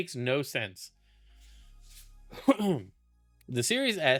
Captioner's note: clears throat